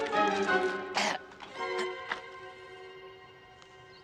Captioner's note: Batuk